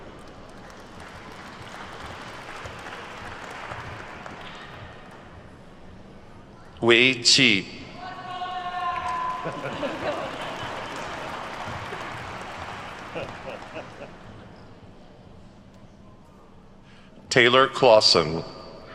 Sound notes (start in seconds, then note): 0.0 attendees clapping; 9.0 faculty laughing; 11.8 attendees clapping